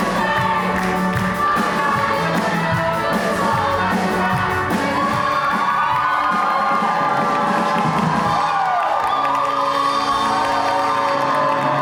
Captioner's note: audience cheers